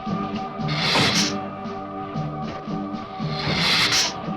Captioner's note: dramatic music; lizard hissing